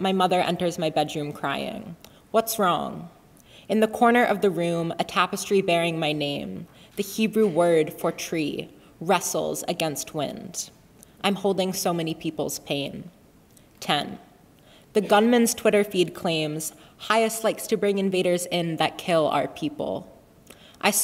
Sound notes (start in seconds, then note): none